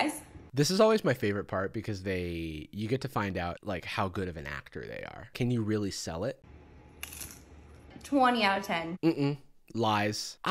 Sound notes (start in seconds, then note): 7.0 crunch